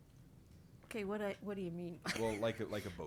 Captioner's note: chuckles